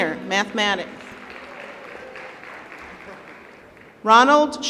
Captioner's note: applause